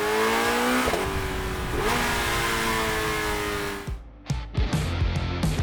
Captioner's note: engine revving; rock music